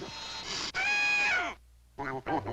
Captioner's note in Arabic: نعيق البط